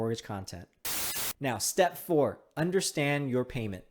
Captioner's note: TV hissing